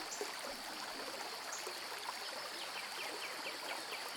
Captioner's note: water gurgles